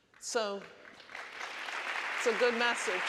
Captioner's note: audience applauding